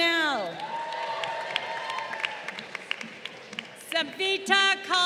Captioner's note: crowd cheering